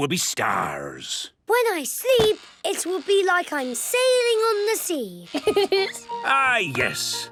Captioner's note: laughing